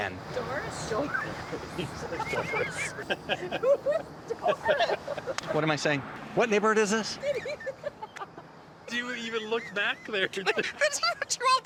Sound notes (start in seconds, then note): 2.0 crew laughing; 7.1 still Laughing; 9.4 laugh